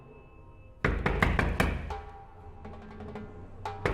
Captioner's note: pounding